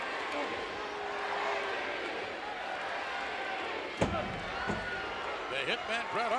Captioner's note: applause